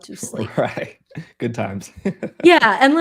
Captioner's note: laughing